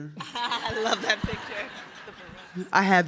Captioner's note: audience laughs